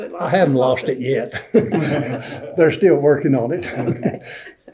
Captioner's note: laughter